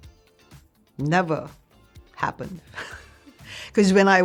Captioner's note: laughs